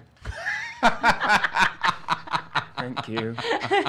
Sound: laughing

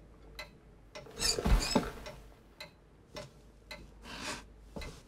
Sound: chair squeaks

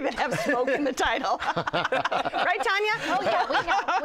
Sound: laughter

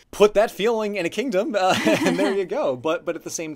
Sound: laughs

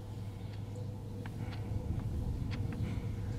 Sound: clock ticking

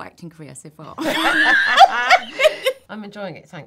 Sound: laughing

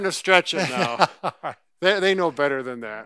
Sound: chuckles

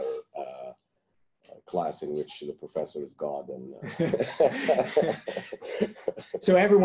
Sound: laughter

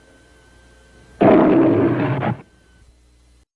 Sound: Leo the Lion roaring

